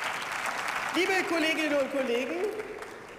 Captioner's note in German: Beifall